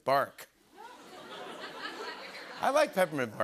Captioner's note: laughter